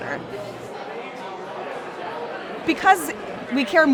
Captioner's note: crowd chatter in a brewpub